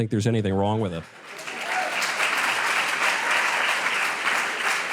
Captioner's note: audience applause